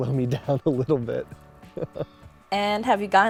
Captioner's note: laughs